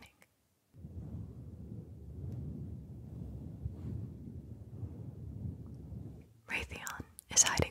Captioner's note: mic brushing